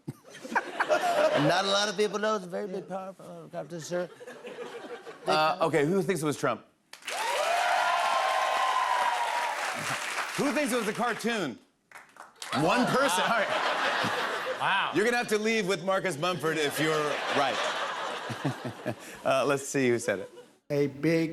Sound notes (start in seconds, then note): 0.0 laughter; 7.0 loud cheers and applause; 11.8 applause; 12.5 laughter; 16.4 laughter